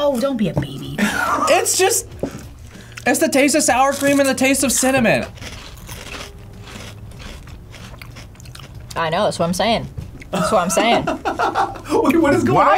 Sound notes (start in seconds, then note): 1.0 laughs; 5.9 crunching; 10.3 laughs